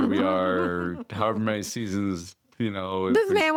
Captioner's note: chuckles